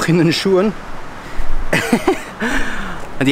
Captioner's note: laughing